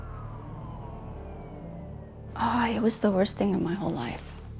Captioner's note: sirens blare